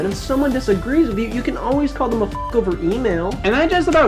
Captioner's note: beep